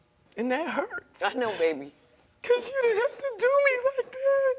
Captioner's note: none